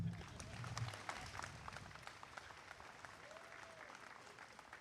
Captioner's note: applause